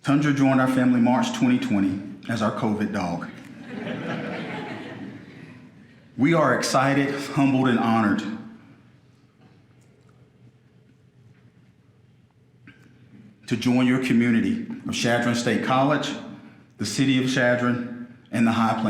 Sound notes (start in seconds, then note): 3.3 audience laughing